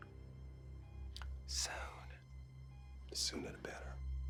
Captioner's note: whispers